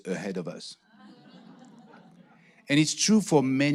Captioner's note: audience laughing